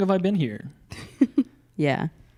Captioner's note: laughing